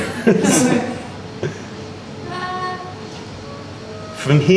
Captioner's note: laughter